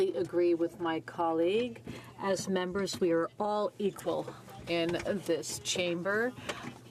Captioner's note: speaking French